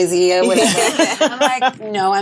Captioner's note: all laughing